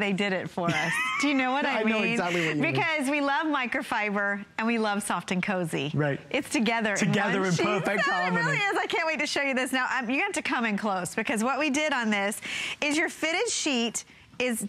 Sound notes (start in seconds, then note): 7.7 laughter